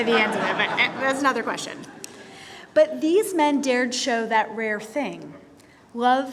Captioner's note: laughter